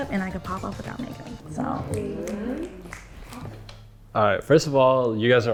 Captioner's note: everyone snaps fingers